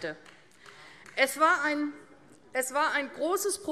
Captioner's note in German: Beifall AfD